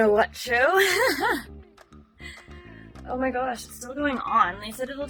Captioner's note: laughs